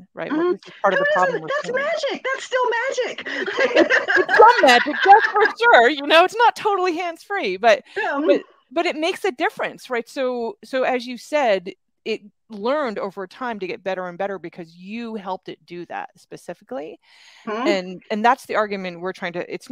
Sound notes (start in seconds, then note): 3.8 laughs